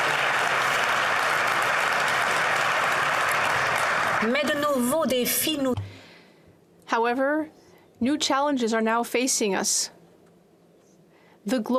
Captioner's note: applause